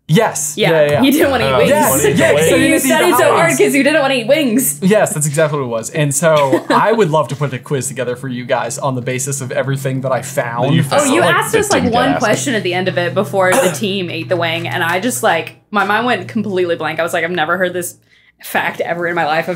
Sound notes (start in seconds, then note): 6.3 chuckling; 13.4 coughing